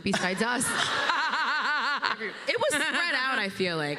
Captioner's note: laughter